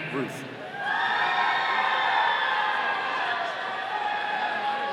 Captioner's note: audience cheering